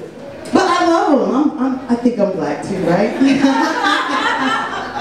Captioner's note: laughs